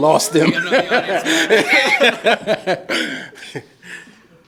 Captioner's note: all laughing